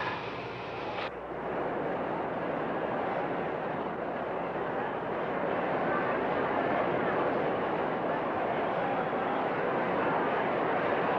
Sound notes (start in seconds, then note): 1.4 crowd chattering